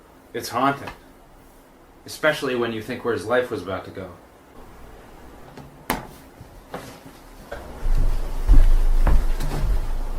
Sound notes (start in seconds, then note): none